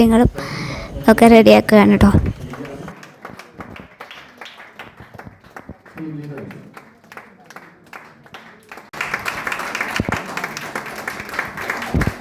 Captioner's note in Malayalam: കരഘോഷം